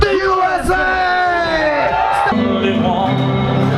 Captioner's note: crowd cheering!